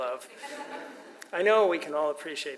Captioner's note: audience laughs